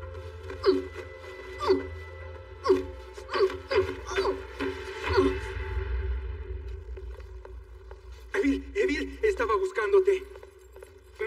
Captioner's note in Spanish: Gruñe